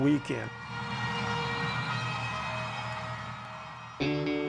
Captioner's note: crowd cheers and horn fanfare